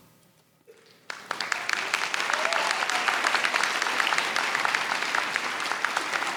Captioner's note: audience cheers and applauds